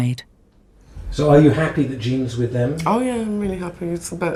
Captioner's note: voiceover